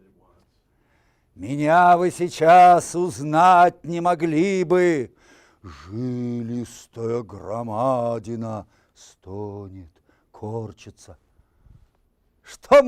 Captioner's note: reciting poem in Russian